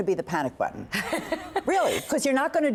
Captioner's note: laughter